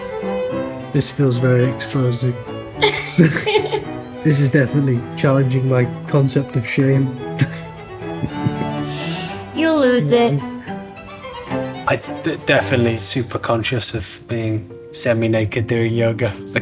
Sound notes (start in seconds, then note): 2.8 laughs; 7.2 laughs